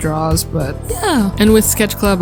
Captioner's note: voice crack